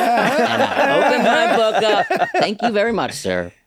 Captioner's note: all laughing